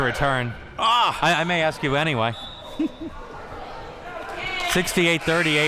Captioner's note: laughs